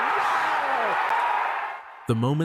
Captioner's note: crowd cheers